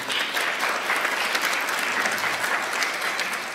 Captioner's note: applause